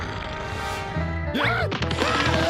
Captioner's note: rabbits growling